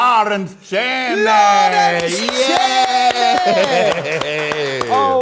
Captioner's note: audience clapping; laughs